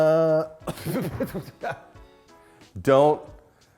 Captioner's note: coughing